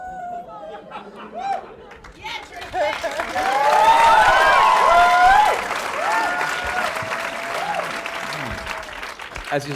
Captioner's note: cheering